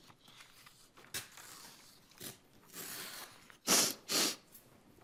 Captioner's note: paper rustling